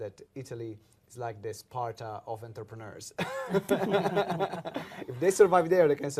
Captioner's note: laughs